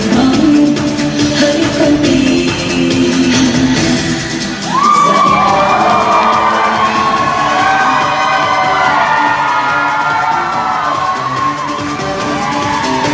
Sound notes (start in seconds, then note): 4.6 cheering